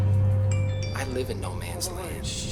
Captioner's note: suena el teléfono